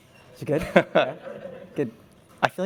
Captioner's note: laughter